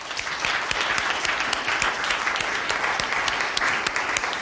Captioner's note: audience applauds